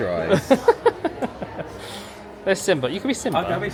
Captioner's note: laughs